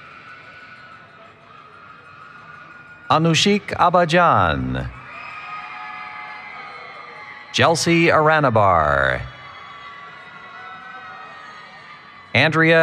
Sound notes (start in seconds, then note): 0.2 cheering; 5.7 cheering; 10.3 cheering